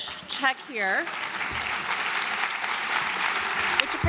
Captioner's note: applause